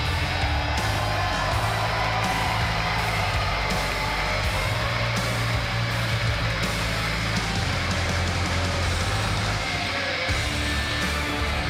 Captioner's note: cheers and applause